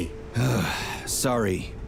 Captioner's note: sigh